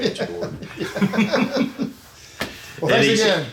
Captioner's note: laughing